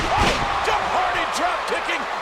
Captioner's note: bodies thud